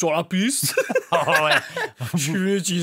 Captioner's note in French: rires